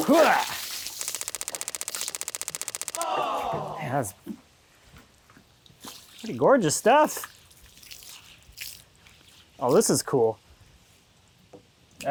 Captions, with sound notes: Hoo-ah! (water splashing) (counter ticking) (audience groaning) It has, (water splashing) pretty gorgeous stuff! Oh, this is cool.